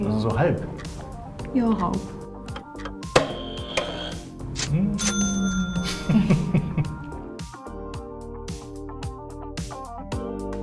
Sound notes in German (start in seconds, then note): 3.0 Buzzer falsch; 5.9 alle lachen